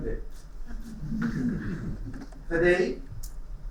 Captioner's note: laughing